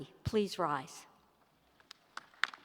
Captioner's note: applause